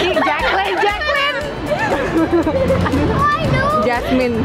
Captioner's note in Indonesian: Ketawa